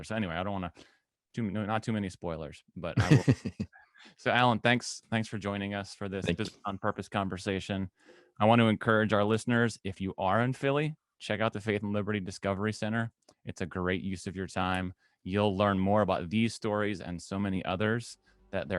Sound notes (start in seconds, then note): 2.9 laughs